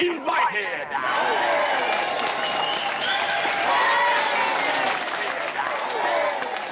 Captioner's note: cheering and applause